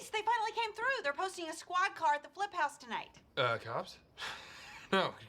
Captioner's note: chuckles